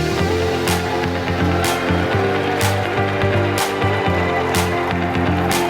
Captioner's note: bright upbeat music; audience cheering